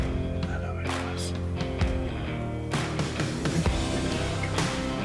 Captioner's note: upbeat country music; whispers indistinctly; country music intensifies